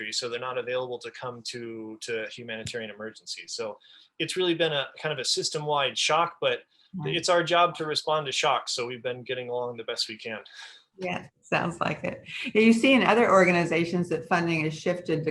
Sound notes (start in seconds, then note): 10.6 laughs